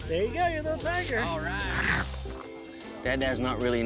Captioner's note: growling